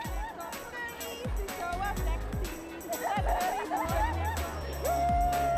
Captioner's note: hens singing and laughing